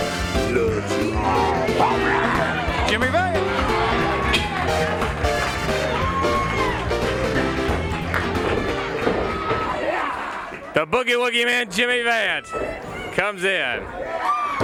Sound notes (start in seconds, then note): 4.6 bell ringing; 7.8 crowd cheering